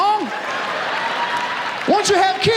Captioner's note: audience laughs